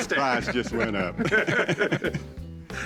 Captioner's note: laughter